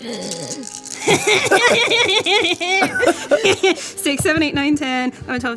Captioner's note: laughing